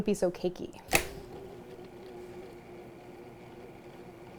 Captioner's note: mixer whirring